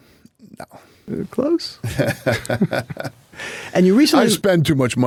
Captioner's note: Dana laughs